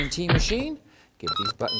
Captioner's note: bleeps-tinkle-bleeps!